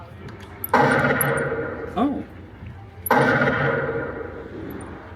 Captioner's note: gunshot sound effects